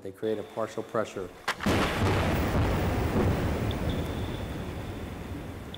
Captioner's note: exploding sounds